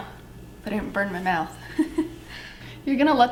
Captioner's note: laughs